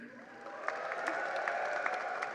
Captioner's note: applause